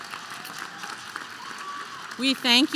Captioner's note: applause